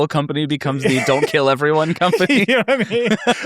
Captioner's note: laughs